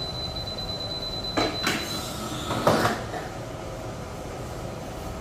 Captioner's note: beeping noise; press machine noise